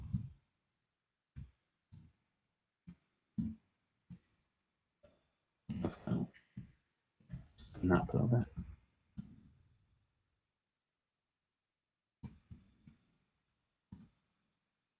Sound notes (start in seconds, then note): 7.8 mumbles